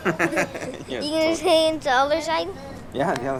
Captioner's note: chuckling